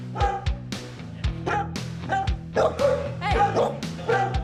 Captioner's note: dogs barking